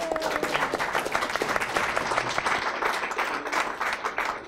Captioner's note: applause